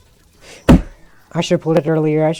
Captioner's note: desk slam